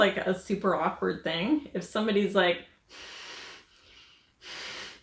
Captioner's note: breathes heavily